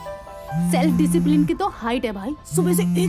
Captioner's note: Phone vibrating continues